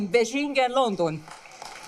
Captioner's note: applause